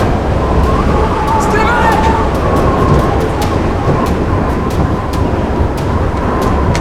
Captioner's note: high winds; door opens/wind